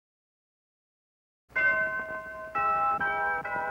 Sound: bells tolling

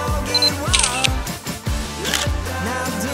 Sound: camera Shutters

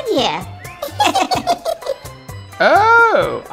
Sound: otter giggles

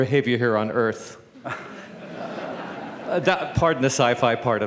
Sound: laughter

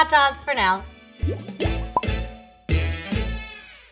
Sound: upbeat music; bubbles popping

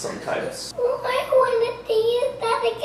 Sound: crying

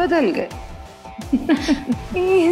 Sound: laughing

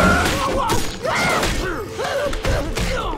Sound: screaming; grunting

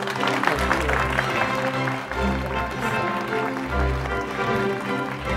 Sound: audience applauding

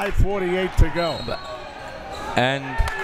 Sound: whistle tweeting

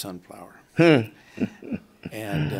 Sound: interviewer chuckles

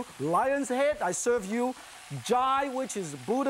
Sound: in foreign language

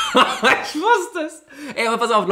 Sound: laughs

